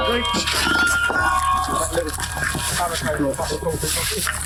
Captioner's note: metal clanking